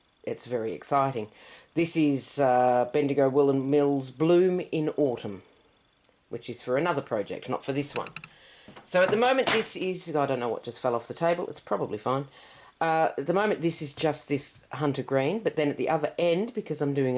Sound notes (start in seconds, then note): 8.7 small thud